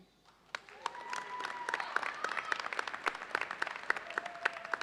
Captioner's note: audience cheers and applauds